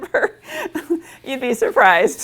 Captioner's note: giggles